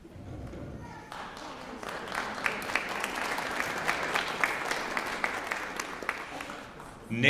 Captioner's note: applause